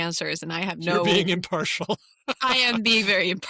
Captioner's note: laughs